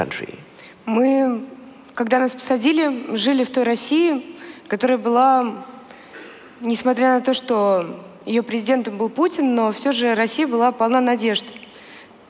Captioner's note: foreign Language